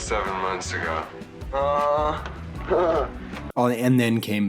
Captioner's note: Spicco li laughs